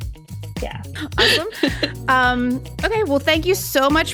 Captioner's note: woman laughing